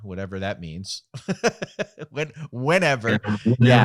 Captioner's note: laughing